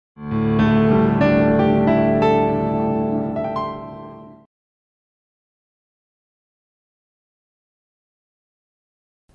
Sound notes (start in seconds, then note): 0.2 calm music; 4.8 silence